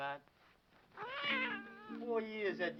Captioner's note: cat meowing